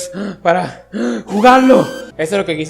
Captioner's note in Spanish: respirar